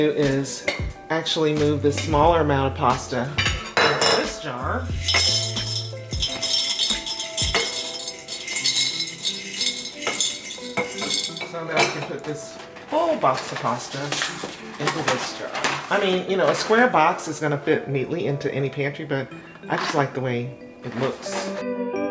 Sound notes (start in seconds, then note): 4.9 clinking